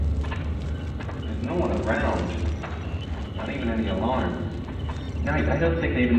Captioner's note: via radio